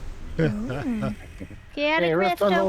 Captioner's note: laughs